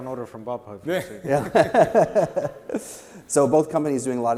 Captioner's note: chuckles